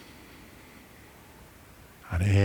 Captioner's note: breathing